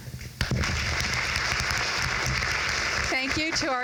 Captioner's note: crowd claps